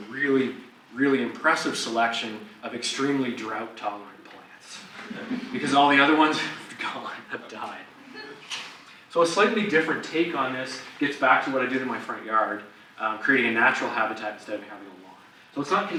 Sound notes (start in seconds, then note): 4.9 audience laughs